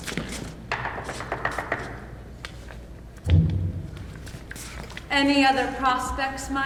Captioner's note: knocking